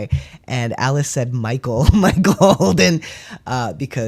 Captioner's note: laugh